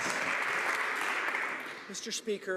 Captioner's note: some Applause